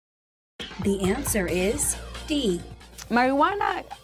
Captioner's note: female announcer speaking